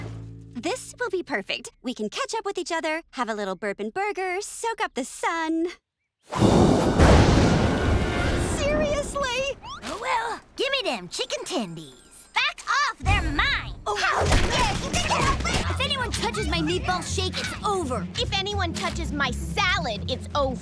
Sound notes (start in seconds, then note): 6.4 thundering; 13.4 yelling